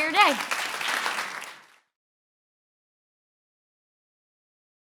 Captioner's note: audience applaud